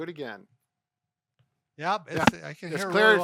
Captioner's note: shoulder cracking